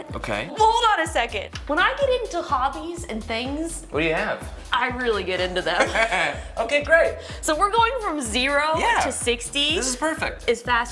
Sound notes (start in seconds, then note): 5.6 laughs